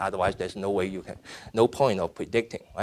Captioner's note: none